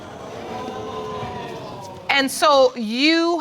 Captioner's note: audience exclaims